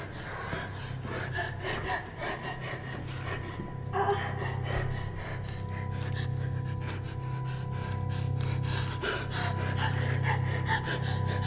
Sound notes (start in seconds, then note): 2.3 Ura pants heavily; 8.2 Ura pants heavily